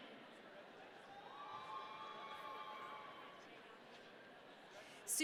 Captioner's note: audience cheering